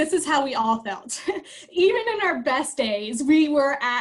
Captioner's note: laughter